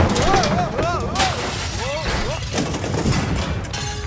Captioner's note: father shouts; glass breaking and pans clanging